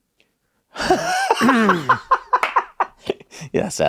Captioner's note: laughs